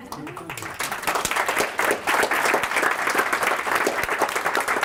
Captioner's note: audience applauds